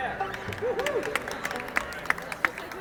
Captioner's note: crowd applauding